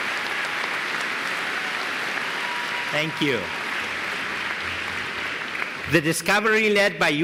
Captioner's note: applause